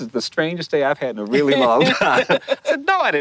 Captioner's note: laughter